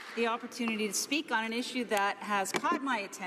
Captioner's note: applause